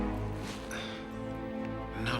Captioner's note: sighs